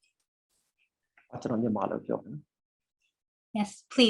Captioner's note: speaking burmese